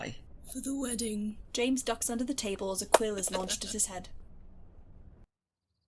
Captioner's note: laughs